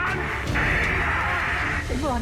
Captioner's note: speaking german; crowd cheers